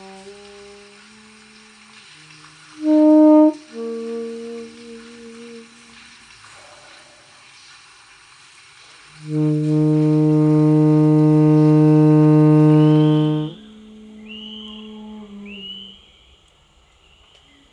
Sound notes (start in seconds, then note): 0.0 sax music; 3.5 rain sound; 9.2 sax music